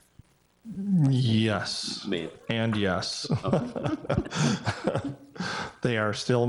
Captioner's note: laughs